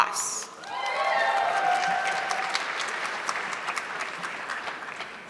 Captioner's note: audience clapping